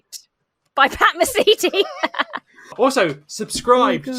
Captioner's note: laugh